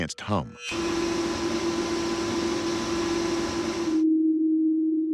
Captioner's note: humming